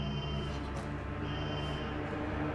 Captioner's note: dramatic music; alarm blaring; dramatic music